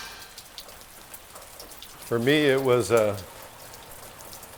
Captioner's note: rain falling